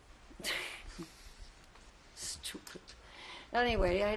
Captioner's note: laughs